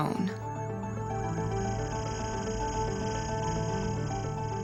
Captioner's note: electronic warbling